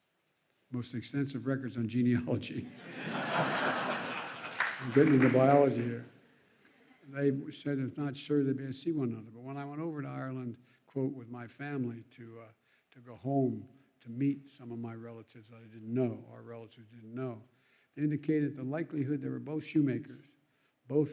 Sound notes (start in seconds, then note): 2.6 laughter; 5.7 applause